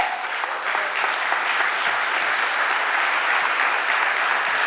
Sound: audience applauding

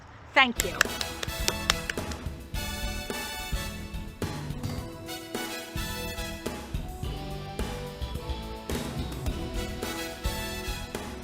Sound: applause

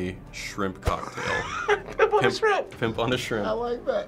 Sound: laughing

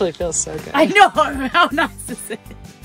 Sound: laughs

